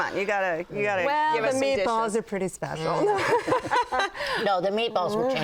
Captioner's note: laughs